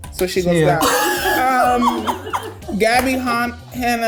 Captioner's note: laughing